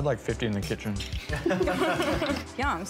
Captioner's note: laughter